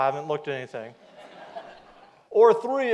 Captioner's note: audience laughs